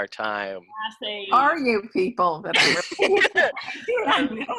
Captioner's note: laughing